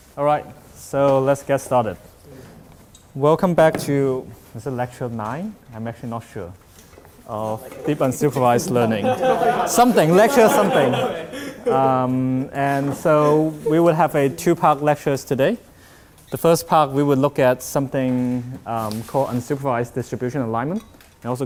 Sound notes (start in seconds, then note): 7.6 laughs